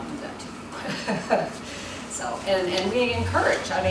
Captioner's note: laughs